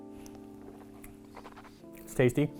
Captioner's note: swishing sounds